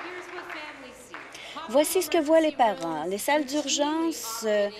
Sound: applause

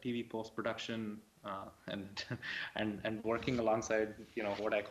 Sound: laughs

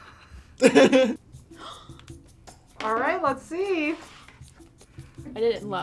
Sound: laughs; gasps

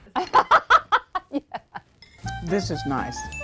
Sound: laughter

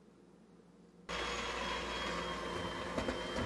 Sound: mixer whirring

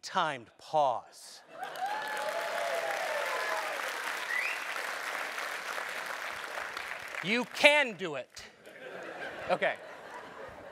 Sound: applause

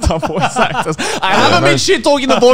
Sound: men laughing

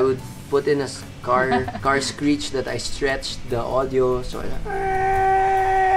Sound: car screech sound

